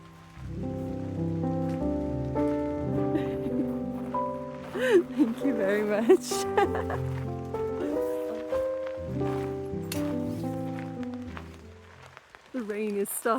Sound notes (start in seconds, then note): 5.2 gentle music; 8.8 laughing